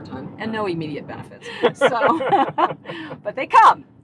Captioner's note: laughing